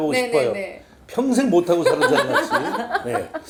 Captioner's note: haha